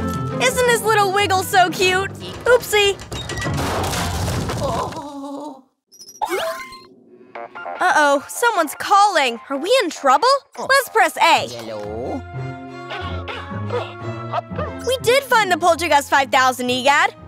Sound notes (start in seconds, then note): 7.2 funky ringtone; 11.6 mysterious music returns